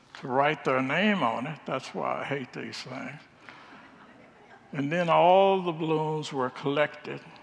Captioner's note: congregants laugh